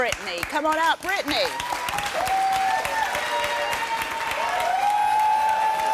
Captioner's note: applause and cheers